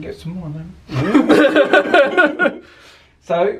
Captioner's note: both laugh